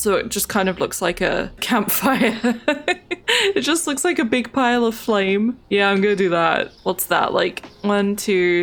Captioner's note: laughs